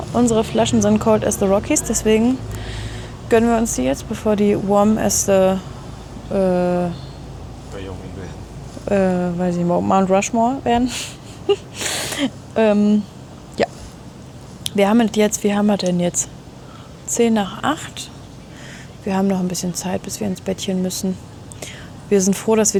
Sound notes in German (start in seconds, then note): 11.0 gelächter; 11.6 schnauben